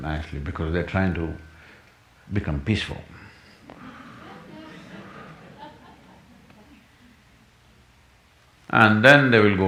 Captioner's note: laughter